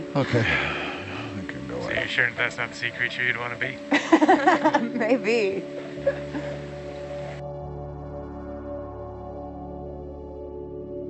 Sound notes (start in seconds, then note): 0.0 sighs; 3.8 laughs; 6.1 serene music